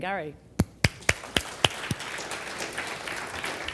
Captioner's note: applause